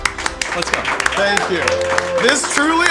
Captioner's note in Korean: 환호